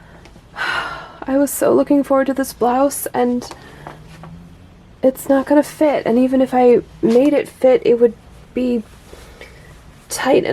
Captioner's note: sigh